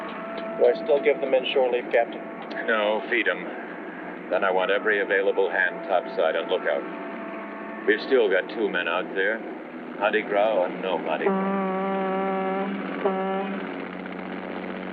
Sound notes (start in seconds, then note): 10.8 horn honking